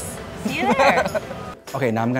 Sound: laugh

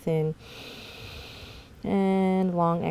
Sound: inhales deeply

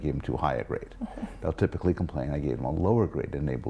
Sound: laugh

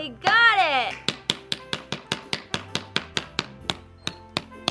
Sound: hammer smacking

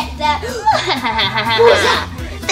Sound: romeo laughs; assistant gasps

